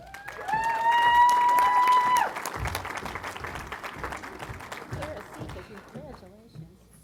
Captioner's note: applause